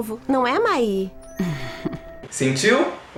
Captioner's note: Mai giggles